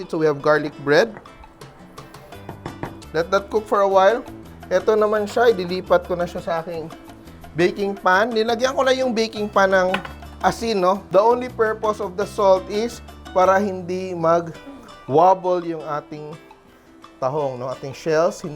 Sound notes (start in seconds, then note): 2.5 knock